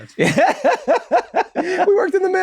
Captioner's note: Glenn laughs